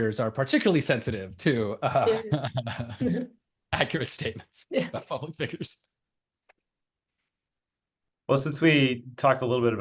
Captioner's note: laughs